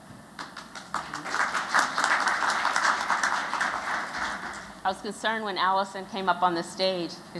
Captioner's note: �applause�